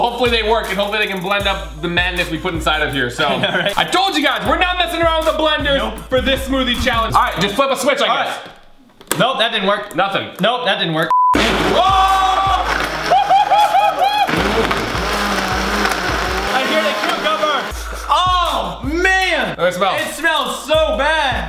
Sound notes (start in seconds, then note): 11.6 screaming